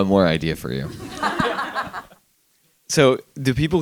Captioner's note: attendees laughing